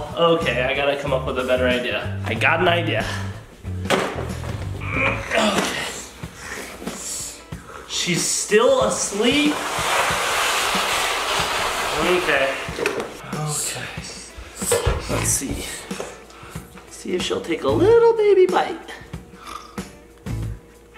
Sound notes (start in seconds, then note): 4.7 grunts; 6.2 snores